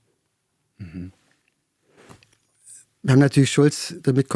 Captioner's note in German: räuspern